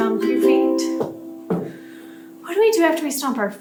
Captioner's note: stomp, stomp